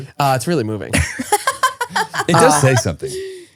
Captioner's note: laughing